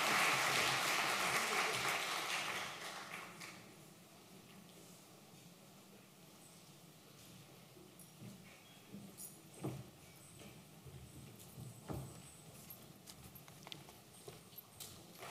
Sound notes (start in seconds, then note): 3.2 applause